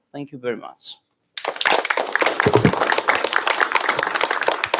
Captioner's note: applause